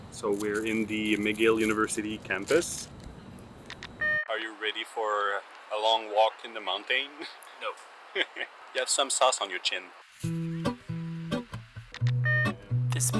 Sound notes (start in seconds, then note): 8.1 laughing; 10.4 upbeat music